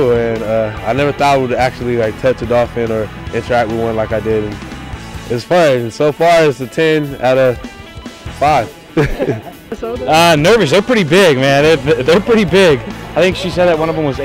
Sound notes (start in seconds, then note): 8.7 laughs